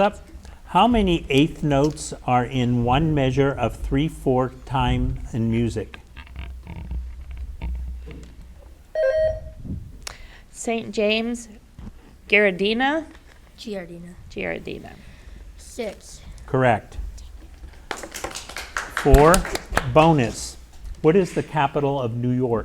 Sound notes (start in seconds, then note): 8.9 bell rings; 17.8 audience applauds